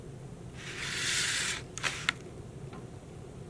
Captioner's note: paper rustling